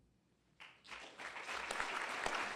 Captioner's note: applause